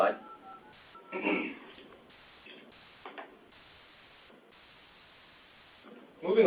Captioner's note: silence